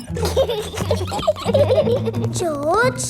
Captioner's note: both giggling